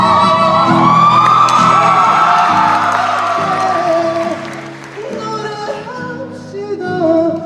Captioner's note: cheering